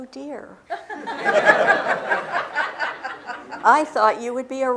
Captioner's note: laughter